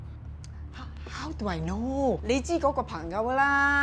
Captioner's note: in Cantonese